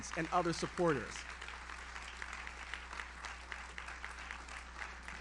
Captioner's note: audience applauds